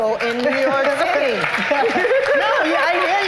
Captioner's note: cheers and applause